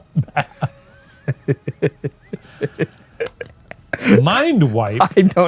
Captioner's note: both laughing